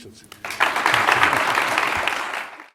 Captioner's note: applause